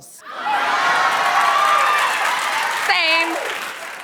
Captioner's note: laughter and cheers